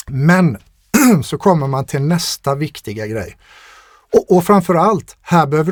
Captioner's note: clears throat